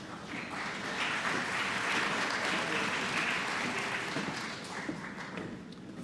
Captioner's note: applause